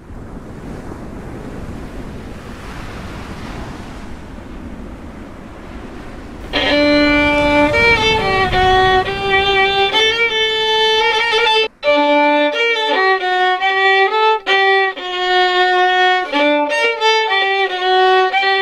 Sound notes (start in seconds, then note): 1.3 sound of ocean; 6.4 violin Music